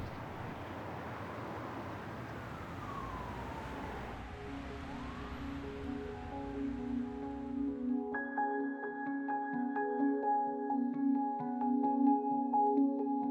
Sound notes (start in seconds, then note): 0.0 city ambience; 2.2 siren